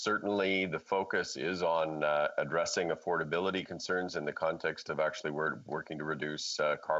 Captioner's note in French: voix de l'interprète